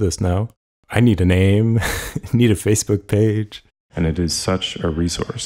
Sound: laughs

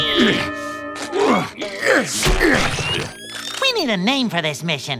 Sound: Plankton grunting

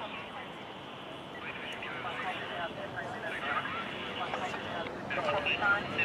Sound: muffled police radio noises

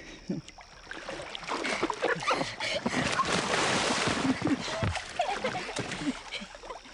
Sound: water splashing; laughter

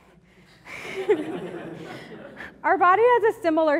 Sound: laughing

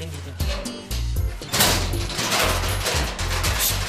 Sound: clanking

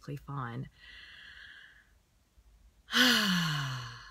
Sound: exhales

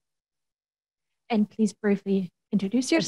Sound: woman Speaking

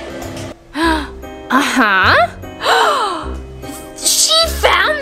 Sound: gasps

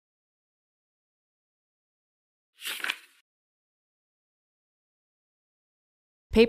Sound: page flip sound

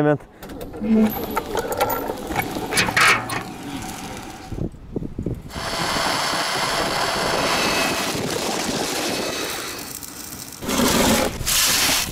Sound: construction sounds

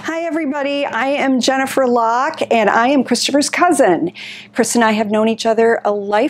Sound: none

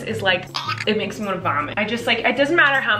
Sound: retching

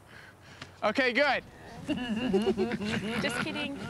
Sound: laughter

